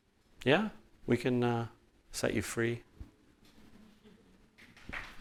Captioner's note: clapping